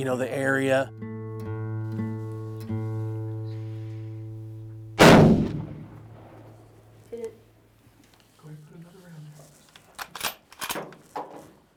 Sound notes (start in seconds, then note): 5.0 gun shot; 7.5 gun being cocked